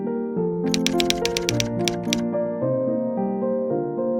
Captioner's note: typewriter tapping